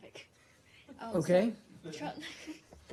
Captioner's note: laughter